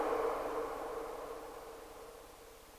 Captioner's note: disortion fades